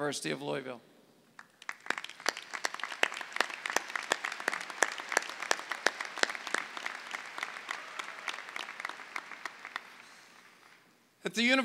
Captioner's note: clapping